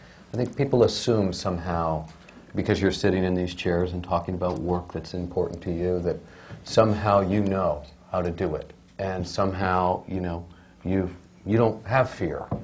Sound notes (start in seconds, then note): none